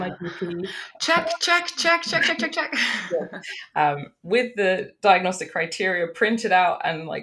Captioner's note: both laughs